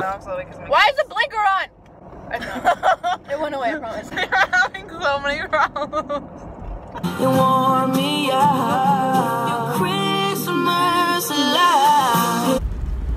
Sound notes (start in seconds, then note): 2.0 laughter; 4.0 laughing